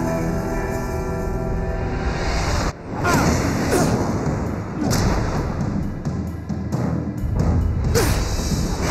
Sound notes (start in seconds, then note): 3.4 boys grunting tiredly